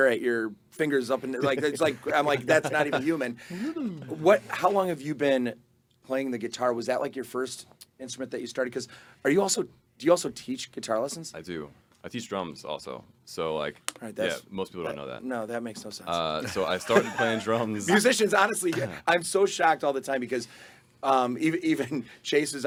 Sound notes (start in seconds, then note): 1.2 laughing; 16.4 group laughing